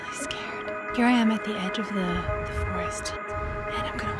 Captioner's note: whispering